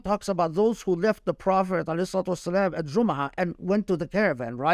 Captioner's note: speaking Arabic